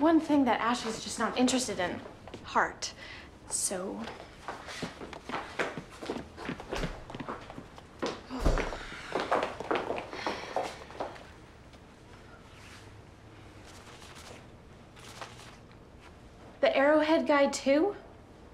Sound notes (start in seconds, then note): 10.1 sighs